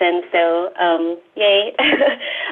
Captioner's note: laughs